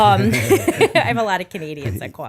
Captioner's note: laughter